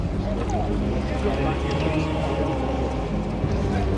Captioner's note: indistinct chatter